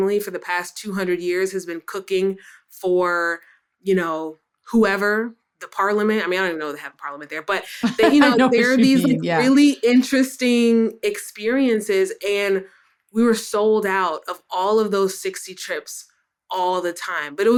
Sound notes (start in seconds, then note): 7.6 laughs